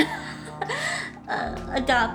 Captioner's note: laughs